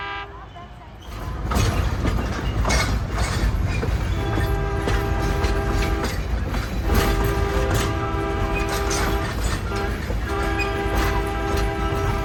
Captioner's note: train noises